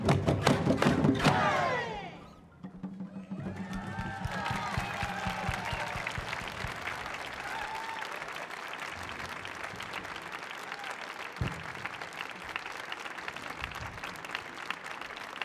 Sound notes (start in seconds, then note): 1.9 performers shouting; 4.1 audience cheering; 7.0 audience applauding